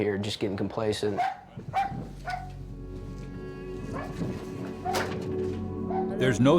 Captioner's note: dog barking; voiceover